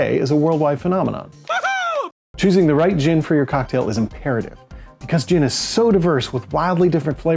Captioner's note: woohoo